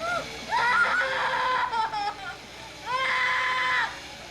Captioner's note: child screaming